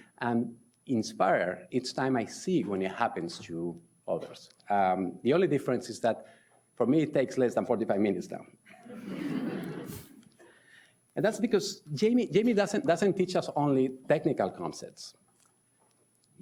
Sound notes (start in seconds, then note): 8.9 audience laughs